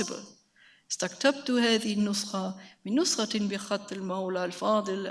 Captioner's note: speaks in a foreign language